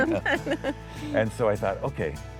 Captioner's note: both chuckling